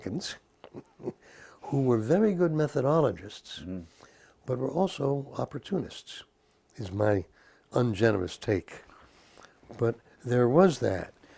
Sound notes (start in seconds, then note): 0.6 laugh